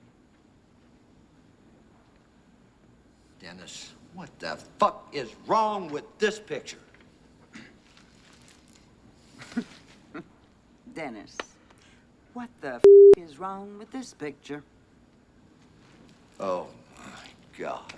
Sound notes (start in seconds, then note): 7.5 clears Throat; 9.3 Burke Chuckles